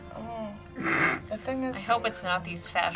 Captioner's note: snorts